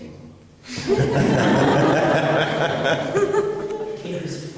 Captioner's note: laughing